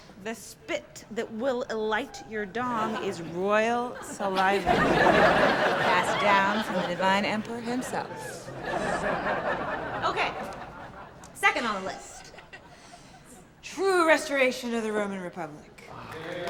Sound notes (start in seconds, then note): 5.0 laughter; 8.9 laughter; 16.0 applause